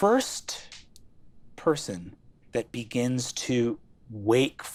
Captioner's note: none